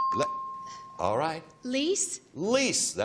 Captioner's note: chimes